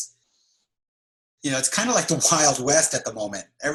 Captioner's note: laughs